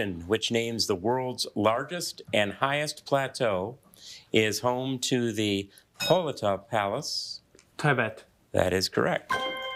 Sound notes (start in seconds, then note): 6.0 bell dinging; 9.3 bell dinging